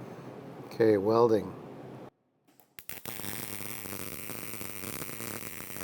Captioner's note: welding torch buzzing